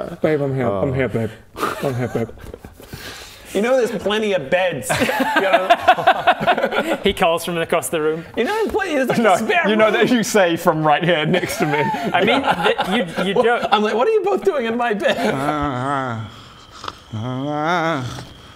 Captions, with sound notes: babe I'm here, I'm here babe I'm here babe You know there's plenty of beds?! He calls from across the room you know there's like a spare room You say from right here next to me I mean, you joke I'm like what're you both doing in my bed? *urghgh* *urgharRRAGH*